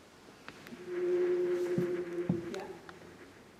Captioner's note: whale droning